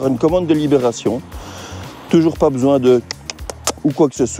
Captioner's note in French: bruits de bouche